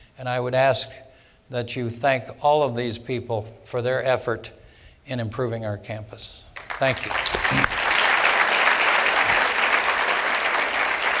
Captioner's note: applause